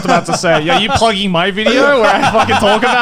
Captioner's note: laughing